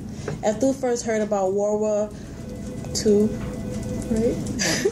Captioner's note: laughing